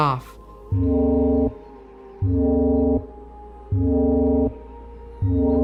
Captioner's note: electronic alarm sounding